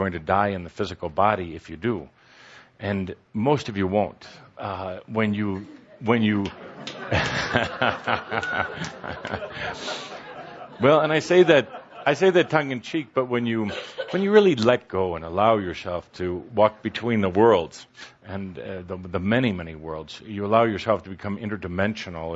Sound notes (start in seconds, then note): 6.6 chuckles as audience starts laughing